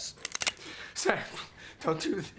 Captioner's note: gun cocks